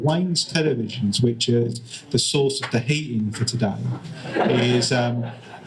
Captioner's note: laughter